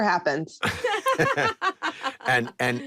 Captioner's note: laughter